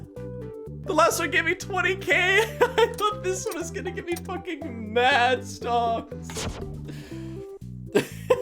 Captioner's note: laughs